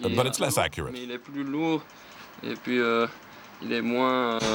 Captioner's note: French spoken audio